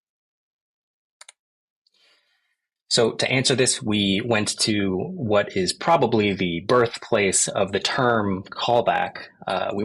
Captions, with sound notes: (mouse button clicks) So to answer this, we went to what is probably the birthplace of the term callback.